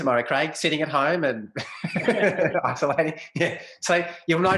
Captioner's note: both laugh